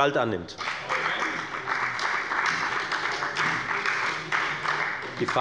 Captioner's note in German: Beifall bei der FDP und der SPD